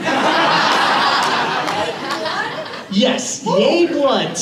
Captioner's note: laughter